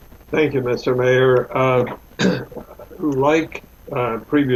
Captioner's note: clears throat